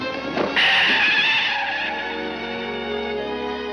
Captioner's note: tires screech; somber music